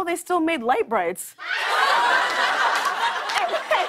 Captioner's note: laughter